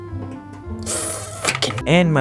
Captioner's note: grilling sounds